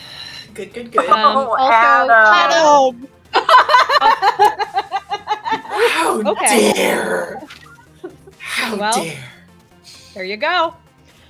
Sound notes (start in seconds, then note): 0.7 laughs; 3.4 overlapping chatter, laughter, and exclamations of "Adam!"